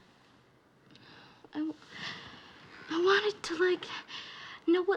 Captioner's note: sighing